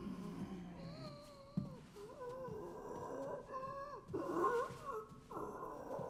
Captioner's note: zombie wheezing